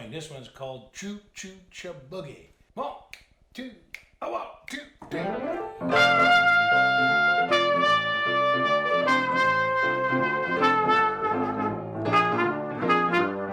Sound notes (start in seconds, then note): 3.1 fingers snapping; 5.1 rollicking music